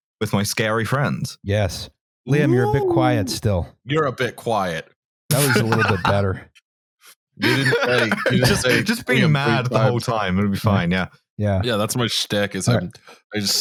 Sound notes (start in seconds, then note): 5.3 laughs; 7.4 laughs